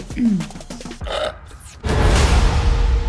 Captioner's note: slurping